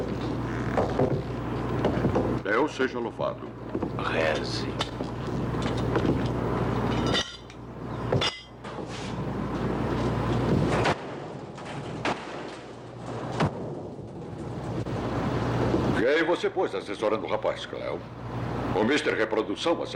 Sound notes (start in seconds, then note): 6.8 metal Clattering; 10.9 locker Doors Slamming